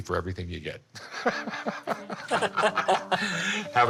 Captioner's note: laughter